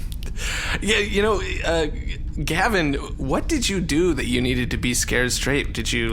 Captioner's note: laughing